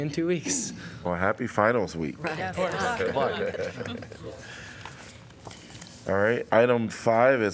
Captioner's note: laughter